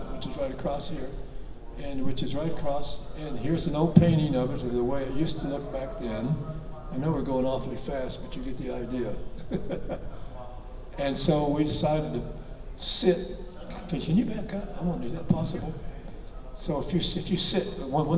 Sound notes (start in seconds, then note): 9.3 chuckles